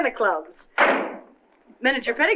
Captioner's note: door slams